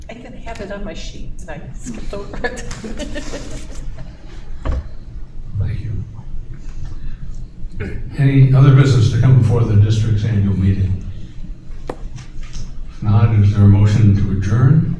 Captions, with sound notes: I can have it on my sheet tonight. [LAUGHTER] Thank you. Any other business to come before the district's annual meeting? If not, is there a motion to adjourn?